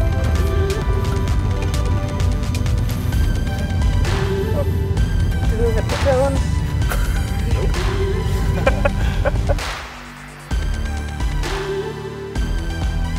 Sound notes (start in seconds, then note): 6.6 laughs; 8.1 laughing; 9.9 uptempo house music